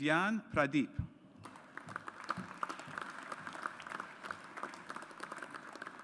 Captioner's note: audience applauds